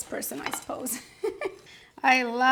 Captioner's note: laughs